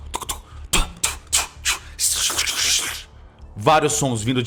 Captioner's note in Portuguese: Shshsh